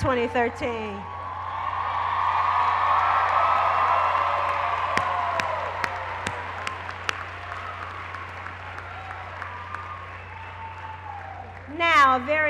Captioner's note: cheers and applause